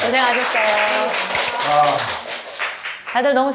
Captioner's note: class ends with applause